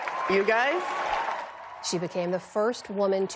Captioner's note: cheering